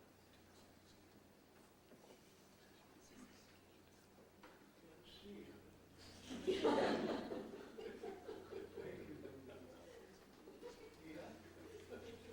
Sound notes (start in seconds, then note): 6.3 audience laughs